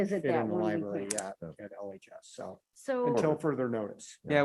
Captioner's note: members chatting